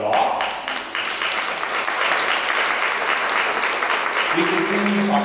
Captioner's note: applause